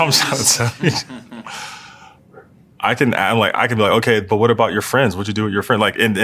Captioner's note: laugh